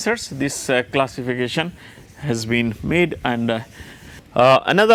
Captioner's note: friction